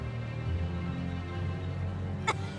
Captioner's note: gasp